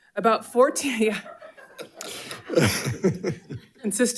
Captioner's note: people chuckling